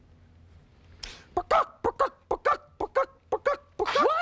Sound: clucking

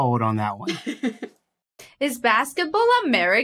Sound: giggles

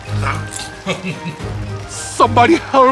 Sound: laughing

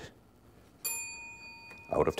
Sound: ding

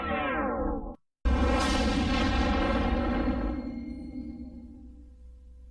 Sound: snippeted tornado and helicopter sounds

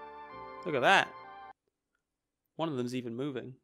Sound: music stops

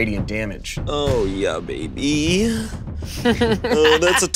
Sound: chuckling

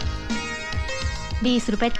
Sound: none

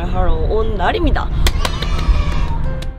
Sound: clap

